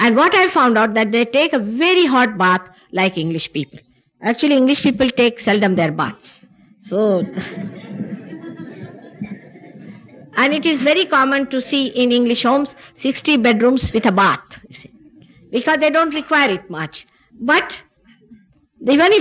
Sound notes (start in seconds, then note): 7.1 she laughs, general laughter